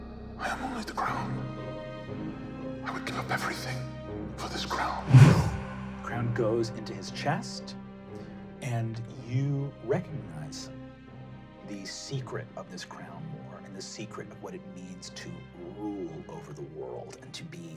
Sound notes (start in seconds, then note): 2.0 dramatic music; 5.0 wooshing